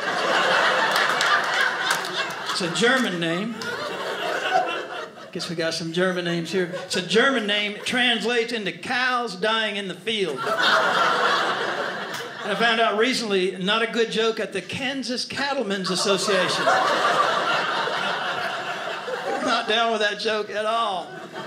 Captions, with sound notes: (audience laughing) It's a German name. Guess we got some German names here, it's a German name, it translates into, "Cows dying in the field." (audience laughing) And I found out recently, not a good joke at the Kansas Cattleman's Association. (audience laughing) They were not down with that joke at all.